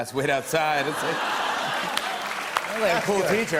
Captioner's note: laughter and applause